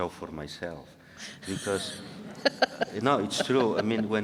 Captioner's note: audience laughing